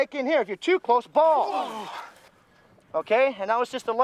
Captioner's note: groans